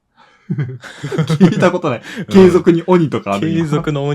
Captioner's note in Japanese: 笑い